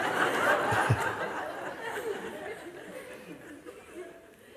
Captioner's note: Lachen